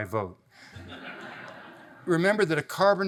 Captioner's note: audience laughs